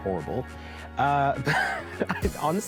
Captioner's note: laughing